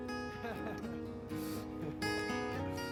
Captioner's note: laughter